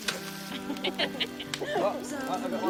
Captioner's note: laughter